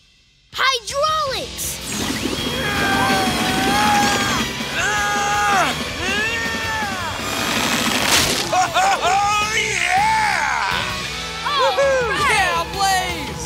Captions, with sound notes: Hydraulics! [grunting] Oh-oh-oh, yeah! [cheering]